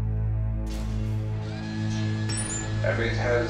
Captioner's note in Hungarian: Fémes gépi zajok, csattogás